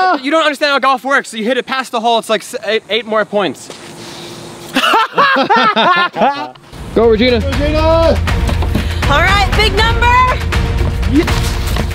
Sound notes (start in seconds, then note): 4.7 laughs loudly